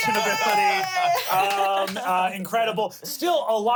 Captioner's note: everyone cheers